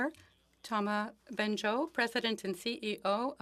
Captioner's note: speaking French